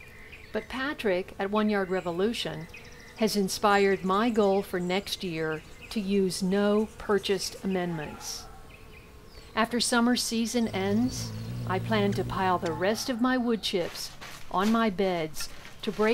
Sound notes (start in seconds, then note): 11.3 buzzing of hummingbird